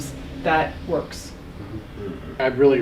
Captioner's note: mumble's in agreement